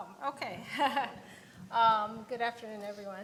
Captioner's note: chuckles